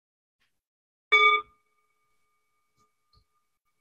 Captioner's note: rings singing bowl